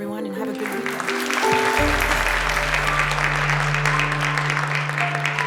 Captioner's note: applause